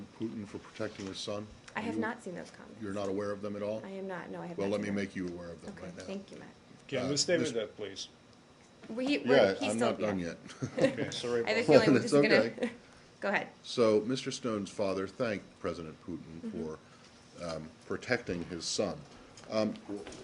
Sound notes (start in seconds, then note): 10.5 laughter